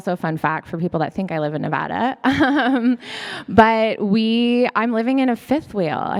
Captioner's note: laughs